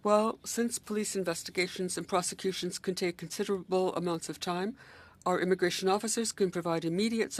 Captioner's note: speaking French